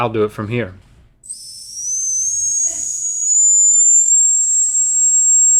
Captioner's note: dog whistle blows